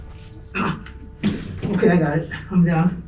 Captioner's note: groans